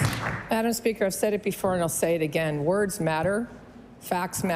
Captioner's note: applause